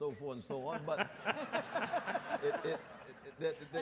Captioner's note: audience laughs